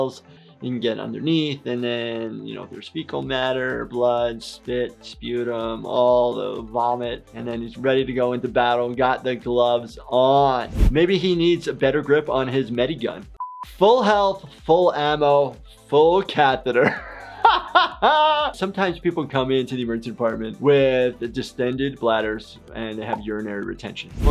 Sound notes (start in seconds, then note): 10.6 air whooshes; 13.4 buzzer beeps; 16.9 laughs